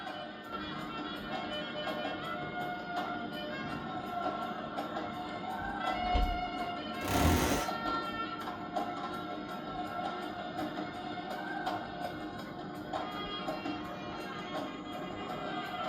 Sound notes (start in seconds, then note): 7.0 creak